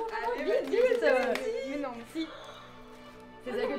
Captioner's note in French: Applaudissements